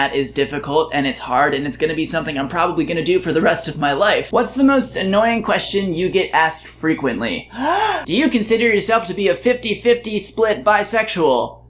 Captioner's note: inhales